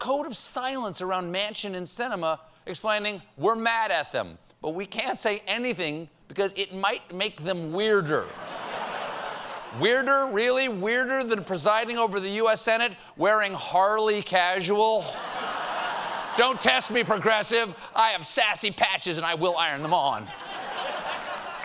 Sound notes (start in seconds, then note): 8.2 laughter; 15.0 laughter